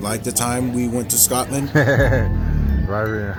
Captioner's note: interviewer laughing